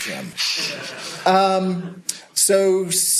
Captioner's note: laughter